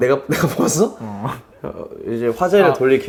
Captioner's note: mumbling